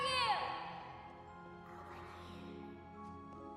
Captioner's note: faint voice